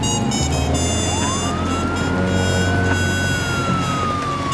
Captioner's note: siren wailing